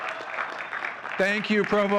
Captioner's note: audience cheering and clapping